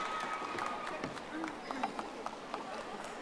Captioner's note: audience applauding